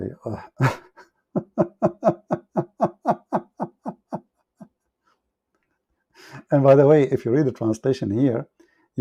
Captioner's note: Ketawa